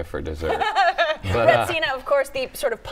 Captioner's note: laughs